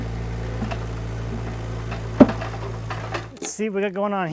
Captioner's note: engine running calmly